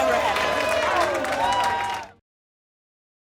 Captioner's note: cheering